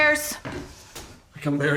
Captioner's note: footsteps approaching